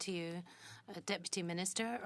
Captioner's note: speaking in French